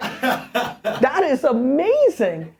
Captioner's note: laughter